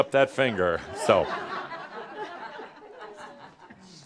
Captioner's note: pause as audience responds